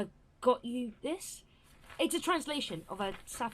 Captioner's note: paper rustling